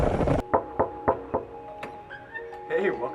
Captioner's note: knocking